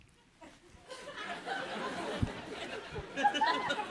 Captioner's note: laughter